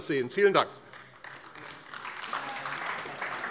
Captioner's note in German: Beifall AfD